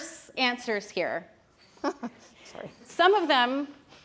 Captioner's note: chuckles